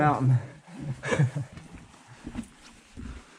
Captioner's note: laughing